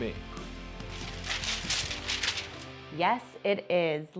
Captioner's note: paper crinkling